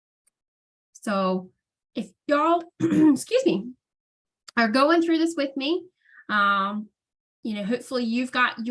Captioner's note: coughs